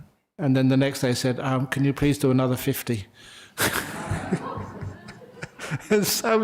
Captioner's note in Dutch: lachen